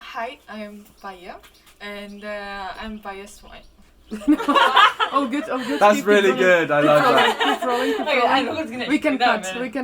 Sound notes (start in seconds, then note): 4.1 laughing